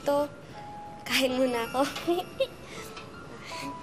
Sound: giggles

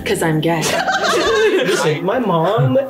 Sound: laughs; all laughing loudly

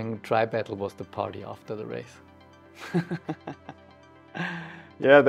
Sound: laughs

